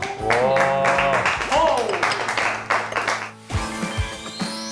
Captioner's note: drools